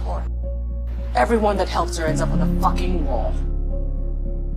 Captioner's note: voiceover